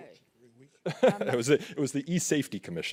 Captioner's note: laughs